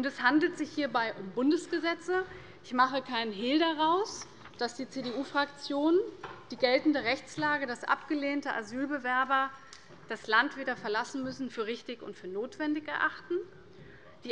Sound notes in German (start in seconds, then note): none